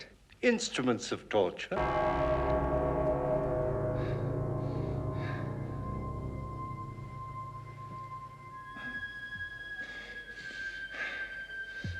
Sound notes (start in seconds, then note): 2.2 dramatic music; 5.9 heavy panting